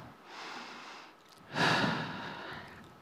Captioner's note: deep Breath